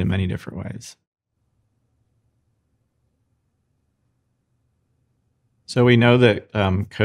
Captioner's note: silence